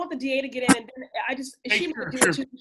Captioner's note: audio glitch